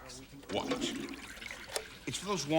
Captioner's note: flushing sounds